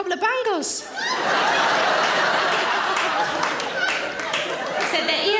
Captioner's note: audience laughing